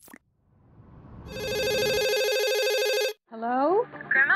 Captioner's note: phone ringing